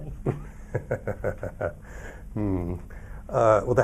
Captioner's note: chuckles